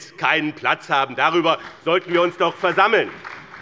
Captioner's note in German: Beifall bei dem BÜNDNIS 90/DIE GRÜNEN und der SPD